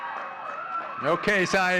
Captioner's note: audience cheering and clapping